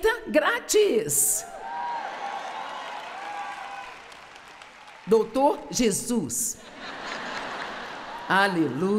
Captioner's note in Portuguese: audiência se alegra